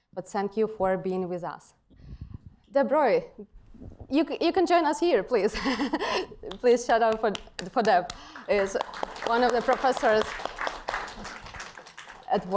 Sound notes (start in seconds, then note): 5.6 chuckles; 10.5 applause